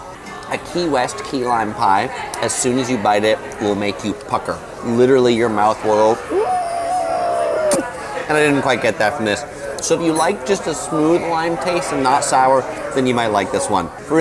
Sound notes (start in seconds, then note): 6.3 imitating puckering noise